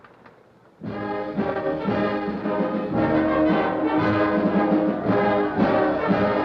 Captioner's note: patriotic orchestral music; crowd cheering